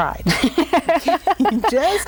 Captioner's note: laughing